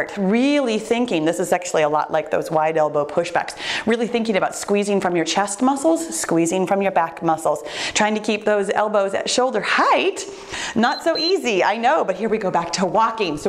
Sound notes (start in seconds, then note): 10.7 timer beeps